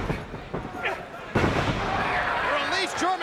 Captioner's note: bodies slamming